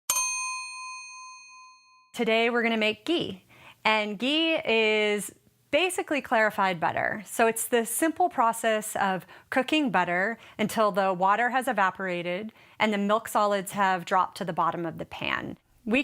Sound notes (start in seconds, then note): 0.1 high pitched ding